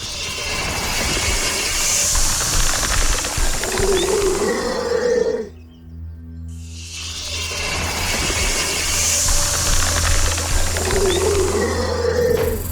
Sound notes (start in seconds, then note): 0.0 snake hisses; 4.0 snake growls; 6.9 snake screeches